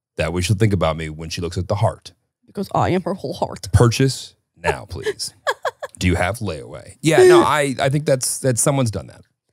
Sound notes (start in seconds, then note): 4.7 laughing